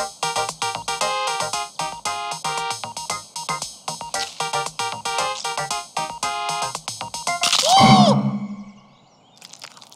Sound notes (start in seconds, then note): 7.5 screams